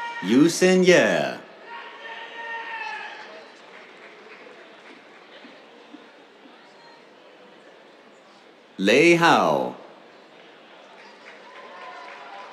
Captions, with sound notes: Yuxin Ye. [APPLAUSE] Lei Hao. [CHEERS, APPLAUSE]